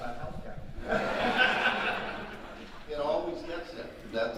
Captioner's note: audience laughing